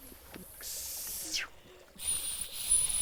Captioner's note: whistling